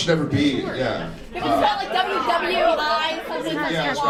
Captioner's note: audience cacophony